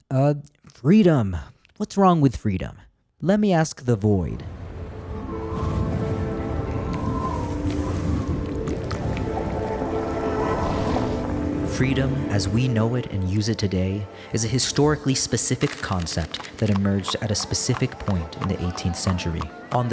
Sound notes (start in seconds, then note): 4.6 wind whistling; 5.0 light thoughtful music